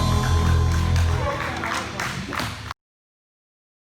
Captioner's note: crowd applauds